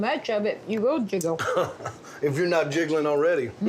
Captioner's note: laughing